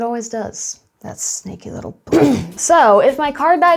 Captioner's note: clears throat